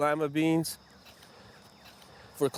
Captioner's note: digging